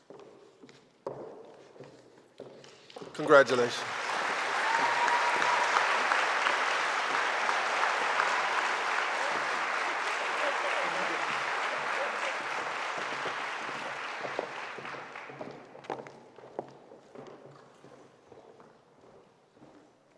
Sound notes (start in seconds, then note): 4.5 audience applauding; 4.5 audience cheering